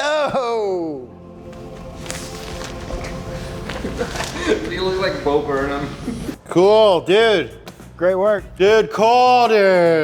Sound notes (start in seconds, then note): 0.0 ethereal music; 3.6 laughing